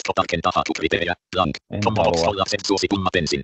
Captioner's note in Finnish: ruudunlukijan puhetta